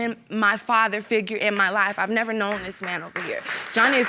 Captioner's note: audience applauding